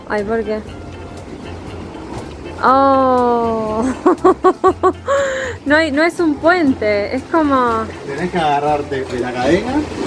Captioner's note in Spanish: risas